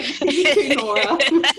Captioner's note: laughter